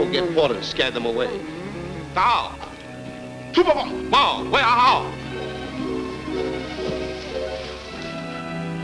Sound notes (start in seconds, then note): 2.5 Moku speaking in foreign language